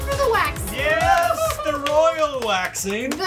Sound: laughing

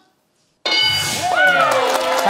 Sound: bell dings; cheering

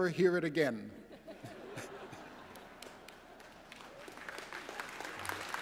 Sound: laughter; applause

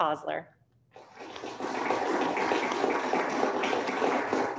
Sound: applauding

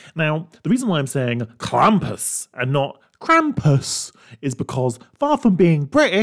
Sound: british Accent

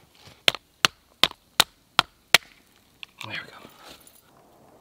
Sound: hammer tapping

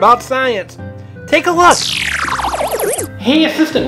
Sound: electronic woosh

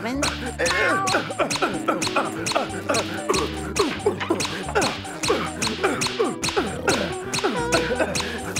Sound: meowing; grunting, squeaking

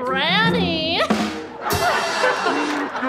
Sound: laughing

